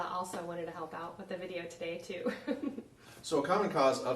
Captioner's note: chuckles